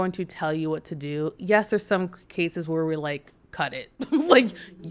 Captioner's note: laughs